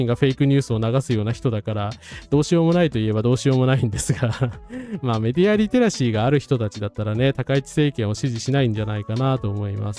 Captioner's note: laughs